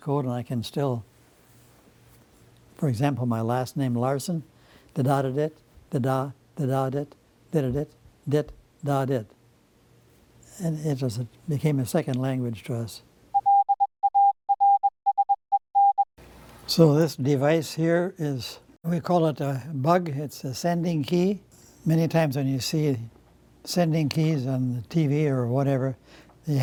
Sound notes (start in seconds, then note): 13.9 morse Code being sent over a telegraph